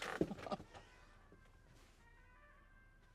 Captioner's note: chuckles